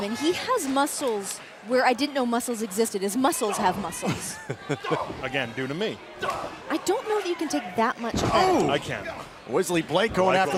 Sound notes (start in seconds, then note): 4.2 laughter